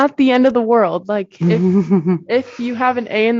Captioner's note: chuckle